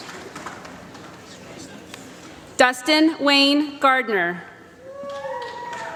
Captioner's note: applause